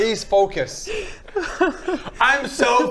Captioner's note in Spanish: llora de la risa